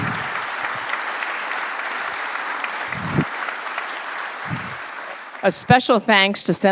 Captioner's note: applause